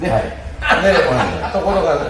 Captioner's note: laughs